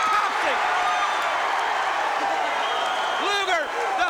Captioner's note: crowd cheering